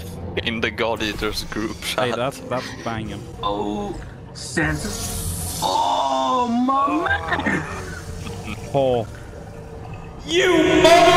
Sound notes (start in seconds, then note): 5.5 groan of pleasure?